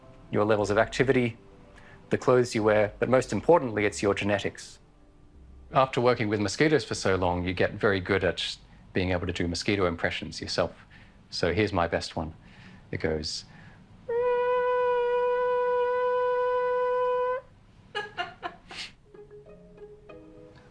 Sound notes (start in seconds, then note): 14.2 high-pitched buzz; 16.0 laughter